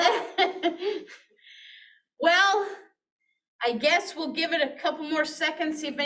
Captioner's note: chuckles